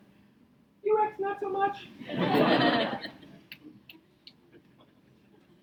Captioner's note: audience laughs